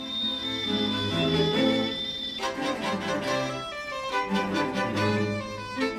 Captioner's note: kettle whistles